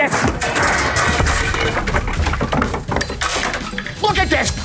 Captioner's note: clattering